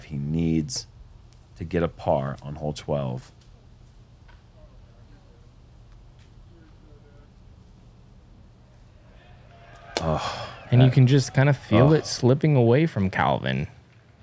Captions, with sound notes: He needs to get a par on hole 12. [silence] You can just feel that it's slipping away from Calvin.